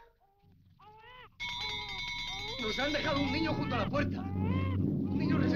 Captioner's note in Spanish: baby crying